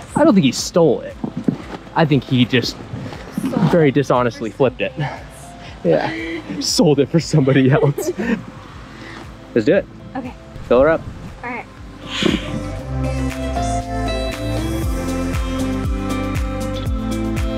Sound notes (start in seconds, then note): 5.8 laughs